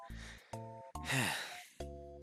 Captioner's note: sigh